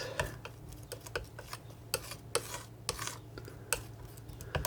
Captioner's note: scratching